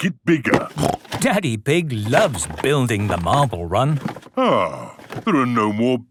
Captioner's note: snorting